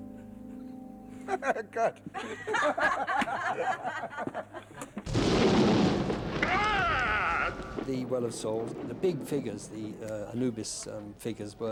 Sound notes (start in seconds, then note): 1.2 Steven Spielberg laughs; 2.1 all laughing; 5.0 thunder cracks; 6.3 screams